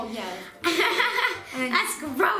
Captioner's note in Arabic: يضحك